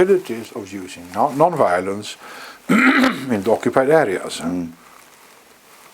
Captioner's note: cough